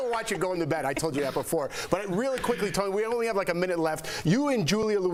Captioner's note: laughter